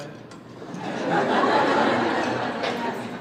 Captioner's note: audience laughing